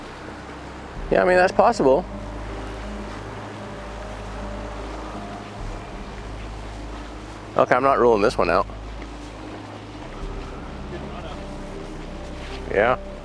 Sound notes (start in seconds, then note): 1.9 somber music; 8.7 faintly speaking